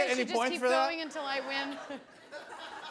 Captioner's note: laughter